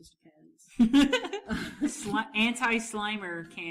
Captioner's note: laughs